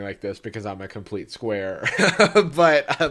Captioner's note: laughs